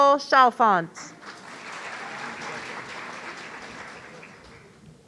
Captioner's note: audience applauding